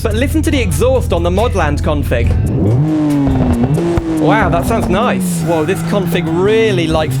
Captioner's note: exhaust Noise